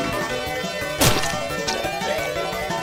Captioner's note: coughing out blood